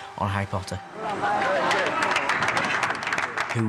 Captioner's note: crew applauding